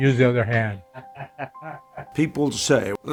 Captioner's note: person laughing